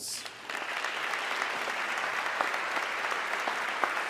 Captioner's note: audience clapping